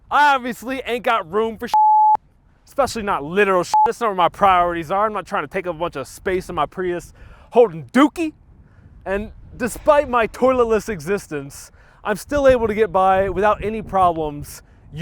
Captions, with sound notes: I obviously ain't got room for (beep). Especially not literal (beep). That's not where my priorities are. I'm not tryin' to take up a bunch of space in my Prius, holdin' dookie. And despite my toilet-less existence, I'm still able to get by without any problems